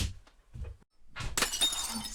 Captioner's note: glass shattering